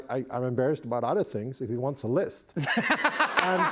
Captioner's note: laughter